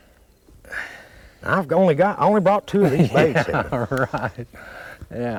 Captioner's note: laughter